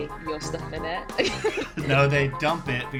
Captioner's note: laughs